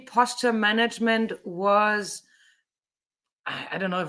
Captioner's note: sighs